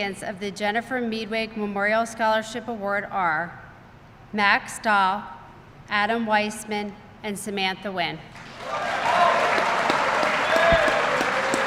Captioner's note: applause